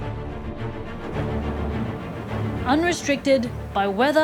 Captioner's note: thunder rumbles